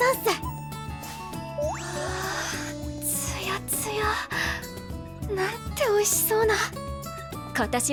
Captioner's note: sigh